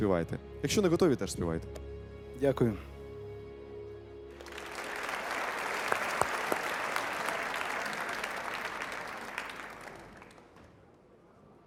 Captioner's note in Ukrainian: оплески